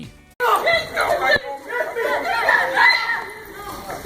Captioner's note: shouting